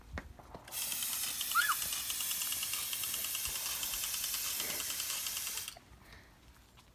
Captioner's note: tool buzzing; girl screams